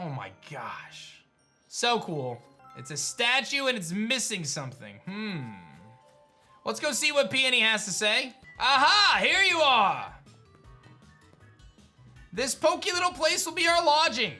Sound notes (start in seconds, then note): none